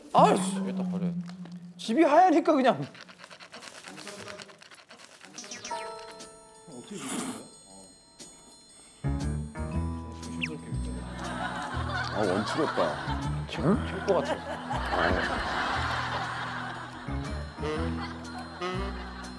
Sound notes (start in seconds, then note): 2.3 scratching; 8.2 he slurps carefully